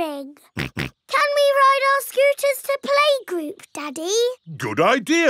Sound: snorts

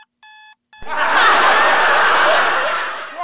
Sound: laughing

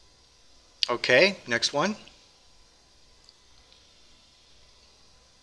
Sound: pause

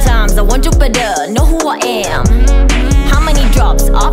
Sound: hmm hmm hmm

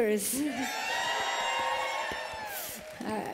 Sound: cheers

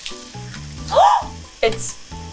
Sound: gasps

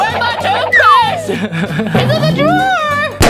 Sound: laughs

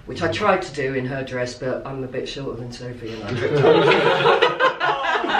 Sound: laughter

